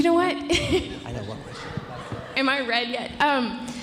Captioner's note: indistinct conversation